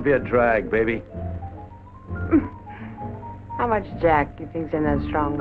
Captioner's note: laughs